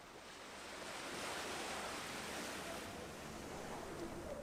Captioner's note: wind rustling